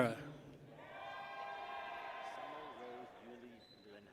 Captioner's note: people cheer